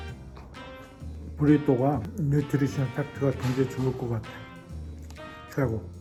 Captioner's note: bright upbeat music; Appa speaking Korean